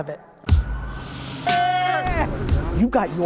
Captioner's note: men cheering